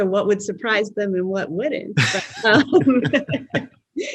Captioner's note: laughs